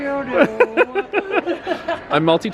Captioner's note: laughing